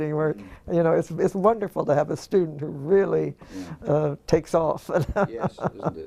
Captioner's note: laugh